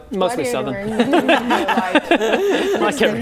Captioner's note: laughing